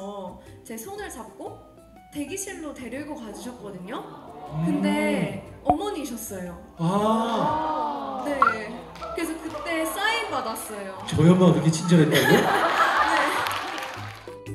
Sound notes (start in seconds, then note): 10.9 jokingly